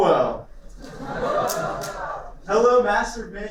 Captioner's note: laughter